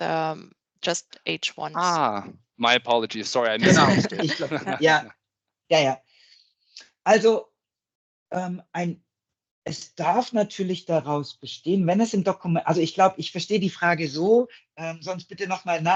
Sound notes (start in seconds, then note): 9.0 laughing